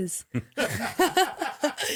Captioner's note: laughing